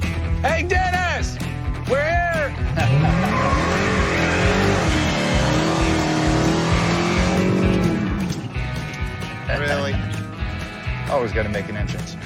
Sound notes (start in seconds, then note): 2.8 engine revs, tires squeal